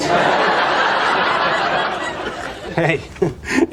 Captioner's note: laugh Track